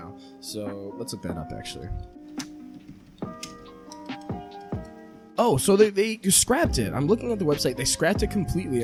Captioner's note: keyboard typing